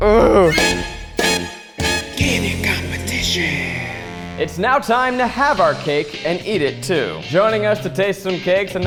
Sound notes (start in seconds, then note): 0.0 groans; 0.4 horns blare